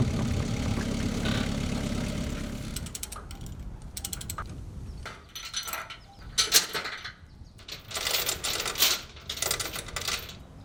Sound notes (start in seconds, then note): 2.9 binder clicking; 5.7 chain clinking